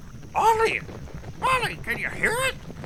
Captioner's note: cascos golpeando